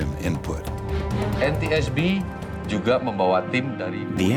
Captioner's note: non-english speech